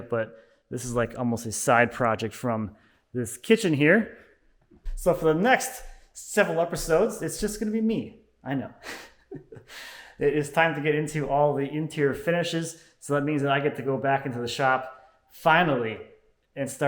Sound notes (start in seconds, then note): 8.8 laughing